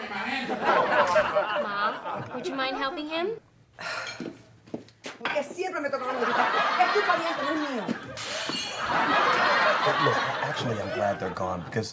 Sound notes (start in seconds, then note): 5.5 Iris speaks in foreign language; 6.0 audience laughs; 8.1 dish crashes